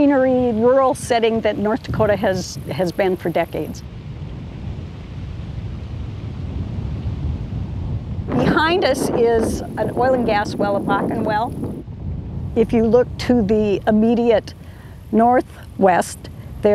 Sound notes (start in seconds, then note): 5.3 wind blowing